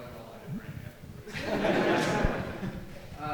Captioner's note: rustling drowns out speaker; audience laughing